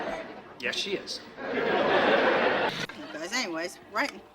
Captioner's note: audience laughing